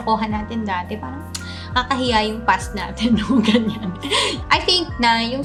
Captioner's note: laugh